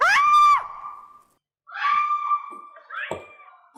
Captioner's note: scream; screams